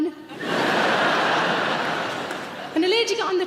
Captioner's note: audience laughs